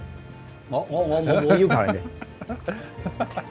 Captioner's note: laughs